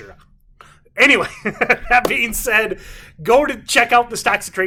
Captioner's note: laughs